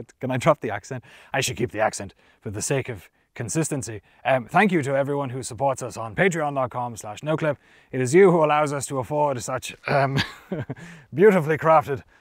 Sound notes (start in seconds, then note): 0.1 speaking normally; 4.2 knightly voice